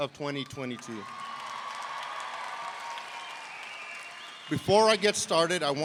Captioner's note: audience cheering